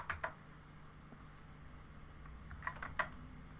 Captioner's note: keyboard typing